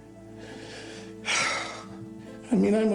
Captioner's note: sighs heavily